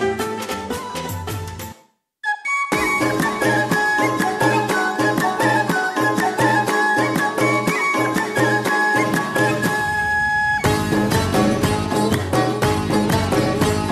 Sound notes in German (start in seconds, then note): 0.2 Musik wird leiser; 2.9 Heitere Musik; 6.9 Rhythmisches Klatschen